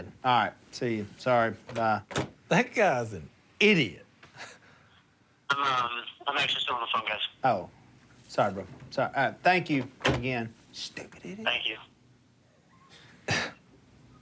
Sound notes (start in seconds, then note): 5.5 on phone; 10.2 whispers; 12.4 on phone